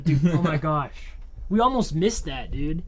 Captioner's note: Thomas laughs